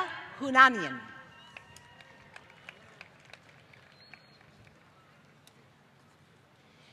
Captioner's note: applause